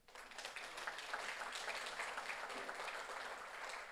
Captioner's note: audience applauds